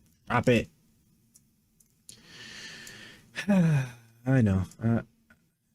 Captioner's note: sighs